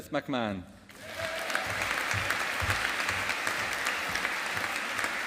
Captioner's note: audience applauding